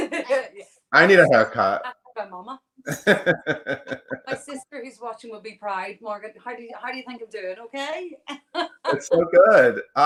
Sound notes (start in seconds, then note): 2.8 laughs; 8.4 laughs